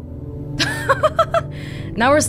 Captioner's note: laughs